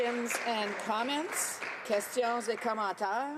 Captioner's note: some applause